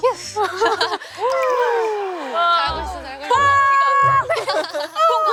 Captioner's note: lots of heavy breathing during the ad break